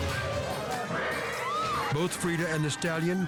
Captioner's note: rider screams